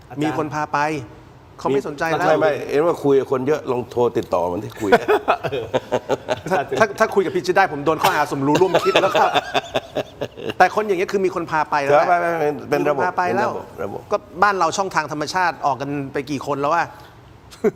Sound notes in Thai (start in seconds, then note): 4.7 เสียงหัวเราะ